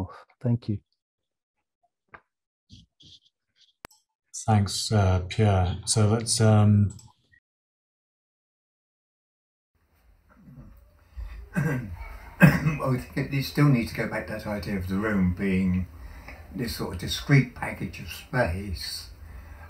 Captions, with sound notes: - (coughs quickly) We still need to go back to that idea of the room being this sort of discrete package of space,